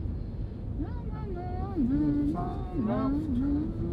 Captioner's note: humming